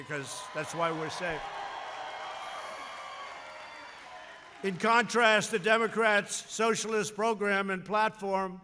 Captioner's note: applause